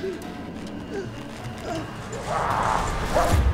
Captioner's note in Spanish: Respirando profundamente